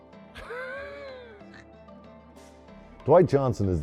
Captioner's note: laughs